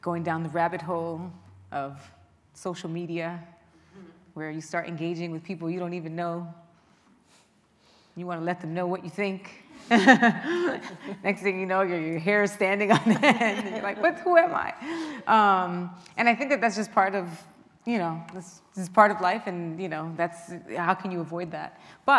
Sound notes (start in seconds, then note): 9.9 laughing